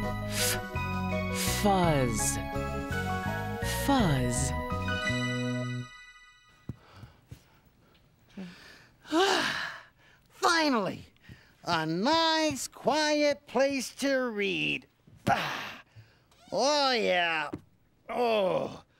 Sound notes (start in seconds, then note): 8.3 sighs; 15.3 sighs, then moans